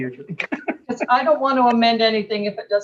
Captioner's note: laughs